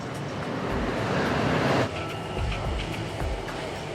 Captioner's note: train roars